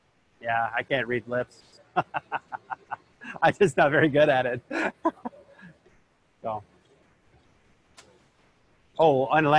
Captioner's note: laughter